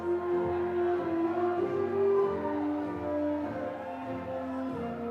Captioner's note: attendees chattering continues